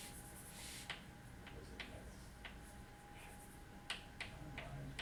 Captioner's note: chalk scraping